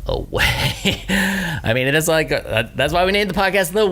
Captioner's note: laughs